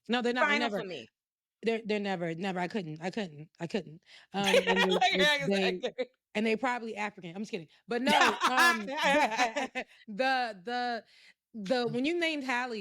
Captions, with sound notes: No, they're never, they're never. Never, I couldn't, I couldn't, I couldn't. (laughing) And they probably African, I'm just kidding. But no, the, when you named Halle,